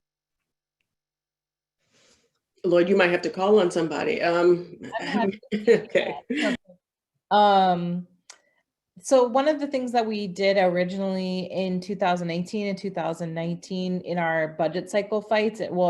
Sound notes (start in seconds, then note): 4.8 laughter drowns out speaker